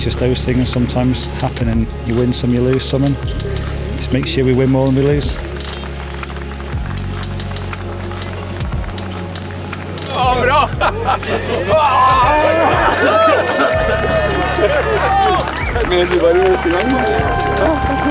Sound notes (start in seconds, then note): 10.4 crowd cheering